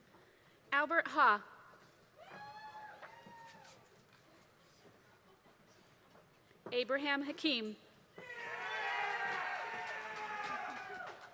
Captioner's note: applause